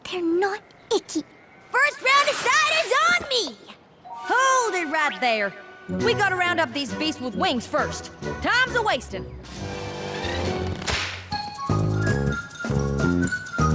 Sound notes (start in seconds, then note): 10.6 snap